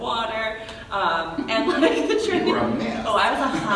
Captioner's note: laughing